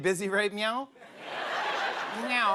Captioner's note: laughter